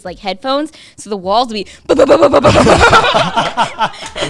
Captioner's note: all laughing; booms